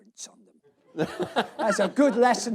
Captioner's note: laughter